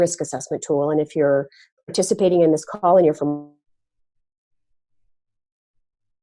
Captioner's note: audio cuts out